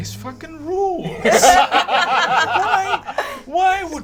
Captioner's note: all laugh